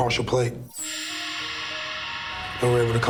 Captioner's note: screech